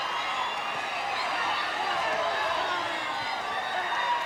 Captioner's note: crowd cheers